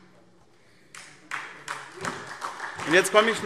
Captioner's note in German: Beifall SPD